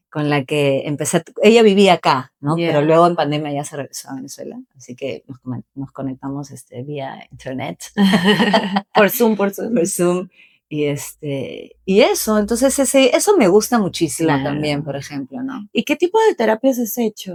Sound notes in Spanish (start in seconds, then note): 7.9 risas